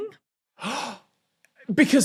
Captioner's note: gasps loudly